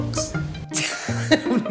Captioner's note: asthma noises